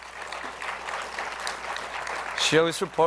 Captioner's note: applause